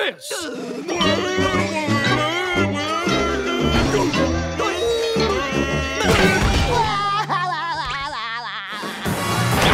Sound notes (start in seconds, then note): 0.7 babbling; 6.5 laughing